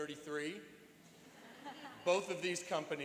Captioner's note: laughing